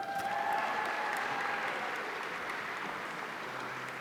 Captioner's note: audience applauding